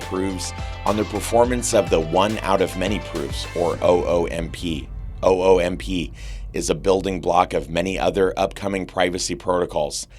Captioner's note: oomp